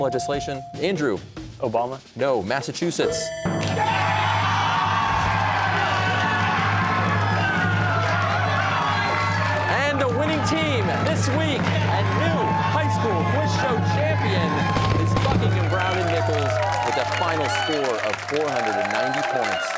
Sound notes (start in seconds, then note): 3.0 bell rings; 4.4 cheering